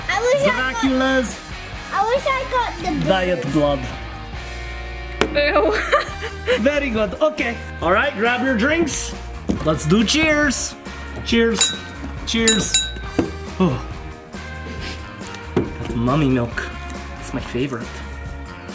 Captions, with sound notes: - I wish I got the boogers. - Dracula's diet blood. - Ew (laughs). - Very good, okay. All right, grab your drinks. Let's do, cheers. Cheers, cheers. (glasses clinking) Oh, that's mummy milk, it's my favorite.